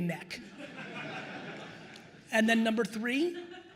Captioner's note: attendees laughing